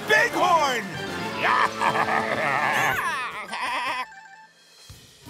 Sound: baaing

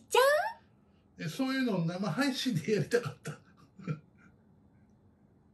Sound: laughs

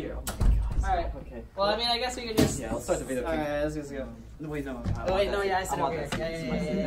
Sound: confuzzled Sounds

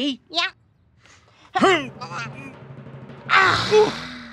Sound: grunting; sighing

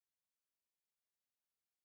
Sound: none

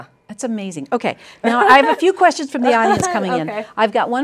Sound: laughter

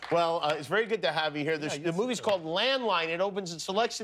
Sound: laughter

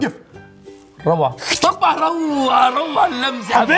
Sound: mimics slurping water

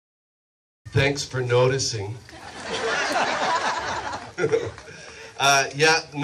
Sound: crowd laughs

